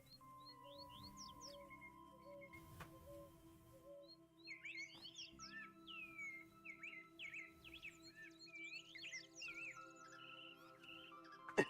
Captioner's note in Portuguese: limpando a garganta